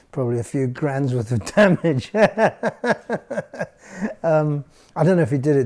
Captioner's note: laughs